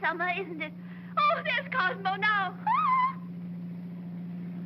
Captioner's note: yells out; car rumbling